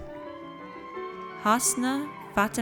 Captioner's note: audience cheers